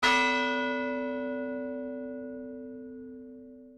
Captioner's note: bell tolling